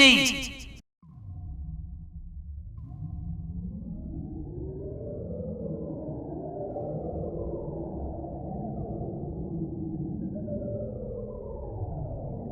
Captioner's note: magic + Spooky Ghost Sounds